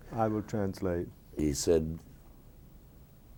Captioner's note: speaking a foreign language